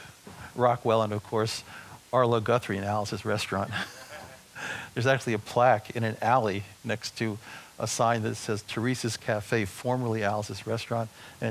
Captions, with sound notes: Rockwell and of course, Arlo Guthrie and Alice's Restaurant. [audience chuckling] There's actually a plaque in an alley next to a sign that says, "Theresa's Cafe, formerly Alice's Restaurant."